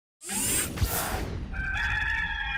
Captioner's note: woosh; rooster crowing